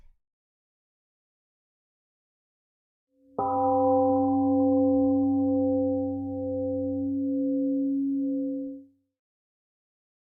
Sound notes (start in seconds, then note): 3.4 🎵 Temple gong rings and fades 🎵